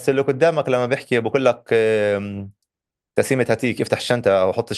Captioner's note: in Hebrew